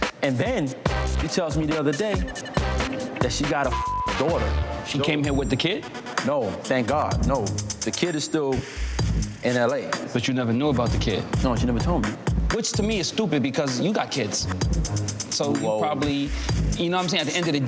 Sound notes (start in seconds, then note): 3.6 beep